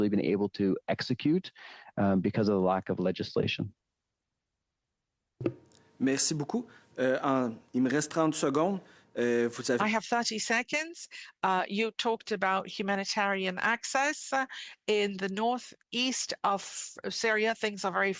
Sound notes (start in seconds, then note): 10.9 speaking French